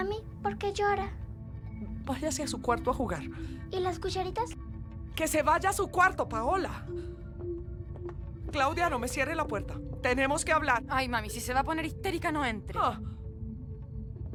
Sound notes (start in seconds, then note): none